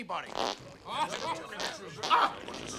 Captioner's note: farting sounds